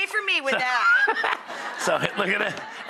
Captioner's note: laughs